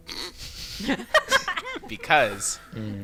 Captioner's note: laughter